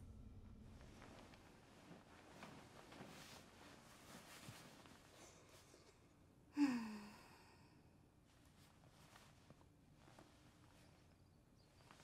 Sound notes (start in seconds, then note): 2.2 sheets rustling; 6.5 woman sighing